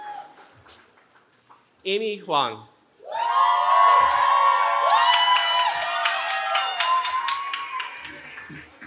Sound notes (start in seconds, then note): 3.0 cheering